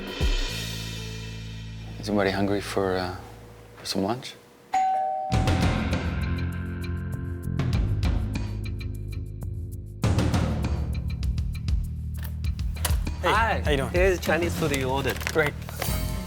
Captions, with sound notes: - Is everybody hungry for some lunch? (doorbell rings) (dramatic music) - Hi. - How you doing? - This Chinese food you ordered. - Great.